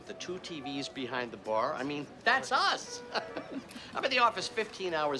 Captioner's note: laughs